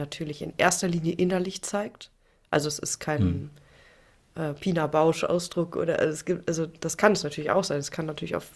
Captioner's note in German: räuspern